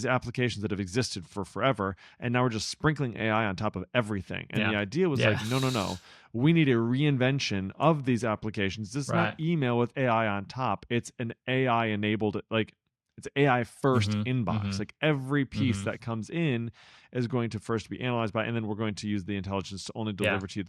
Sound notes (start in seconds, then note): 5.1 laughs